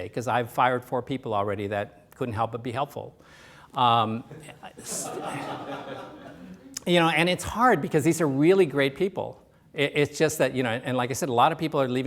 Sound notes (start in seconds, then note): 4.3 laughter